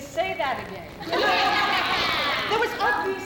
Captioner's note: women cheering